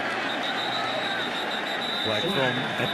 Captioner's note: whistle